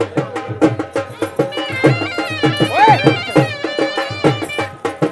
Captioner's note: horse bells jingling